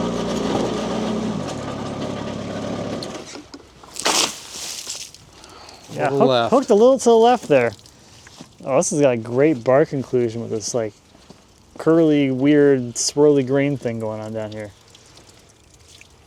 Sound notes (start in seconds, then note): 3.8 water splashes